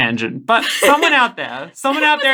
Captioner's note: laughing